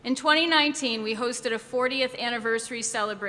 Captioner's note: none